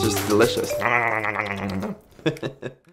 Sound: laughs

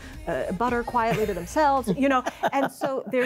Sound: others laugh

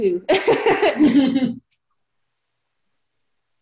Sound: belly laughing

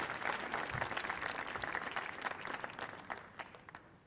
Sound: applause

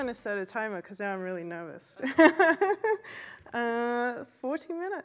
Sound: laughs

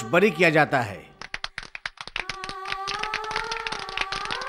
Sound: clapping

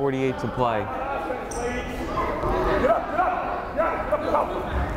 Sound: crowd chattering

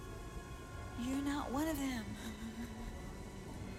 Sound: sobbing

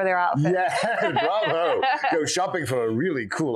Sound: laughing

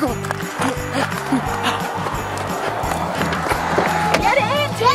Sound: panting

